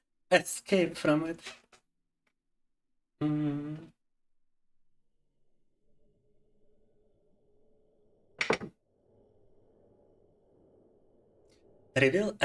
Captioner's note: speaking in Russian